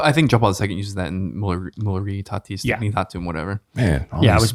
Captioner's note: speaking in foreign language